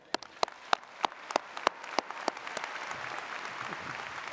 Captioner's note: audience applauds